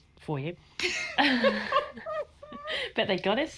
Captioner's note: everyone laughs